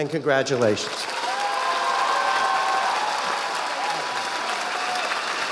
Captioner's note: audience applauding